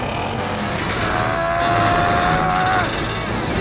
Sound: grunting

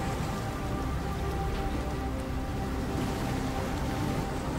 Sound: brooding music continues; water sploshing

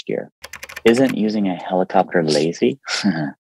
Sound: keyboard clicking; laughs

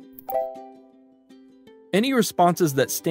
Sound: computer chimes brightly

